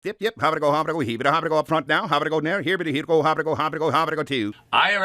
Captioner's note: auctioneer speaking rapidly